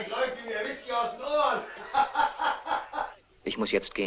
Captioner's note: men laughing